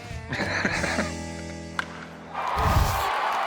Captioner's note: laughs; baseball bat striking ball; crowd cheering